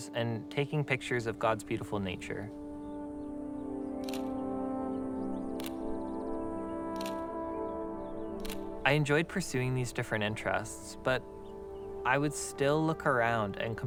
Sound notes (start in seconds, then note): 4.0 camera clicking